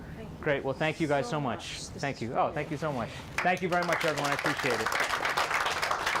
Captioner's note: clapping